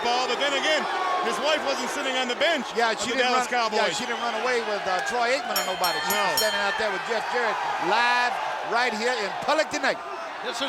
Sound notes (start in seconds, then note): 5.5 bell ringing; 5.6 crowd clamoring